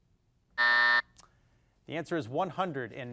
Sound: buzzer dings

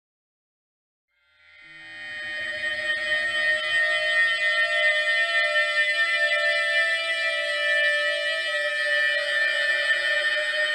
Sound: sound of siren

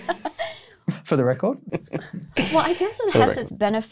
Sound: laughs

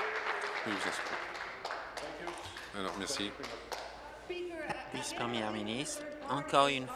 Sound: applause

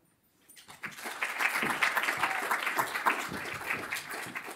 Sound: applause

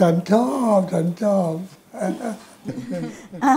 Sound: laughing

